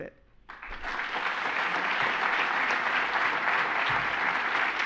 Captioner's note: applause